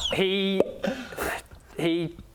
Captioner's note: pop!